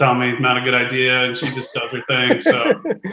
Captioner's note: laughs